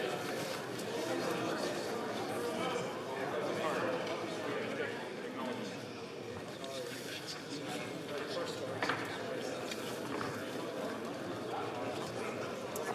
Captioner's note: chatter